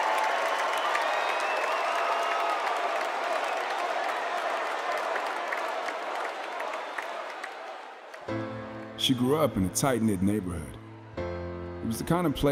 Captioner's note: cheers and applause